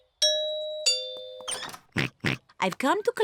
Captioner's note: oinks